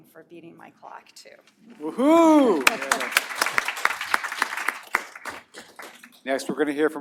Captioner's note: applause